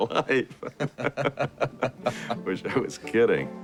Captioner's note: chuckles; men laughing